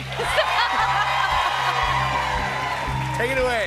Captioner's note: cheers and applause